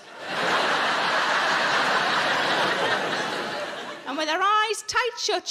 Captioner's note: audience laughing